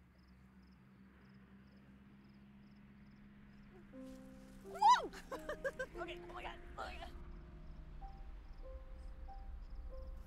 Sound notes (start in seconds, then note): 5.1 laughter